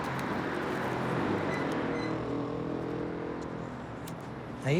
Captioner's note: cars whooshing